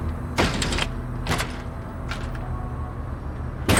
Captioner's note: board thudding